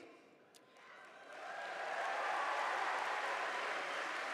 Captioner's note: audience cheering